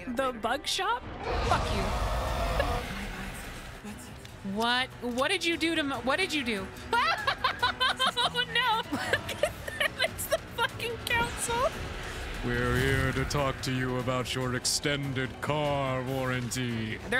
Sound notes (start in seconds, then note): 6.9 laughing; 6.9 scared Laughter